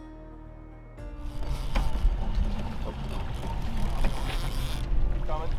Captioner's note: fishing pole reeling